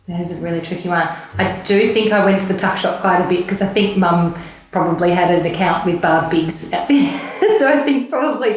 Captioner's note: laughing